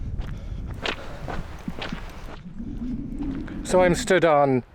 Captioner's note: footsteps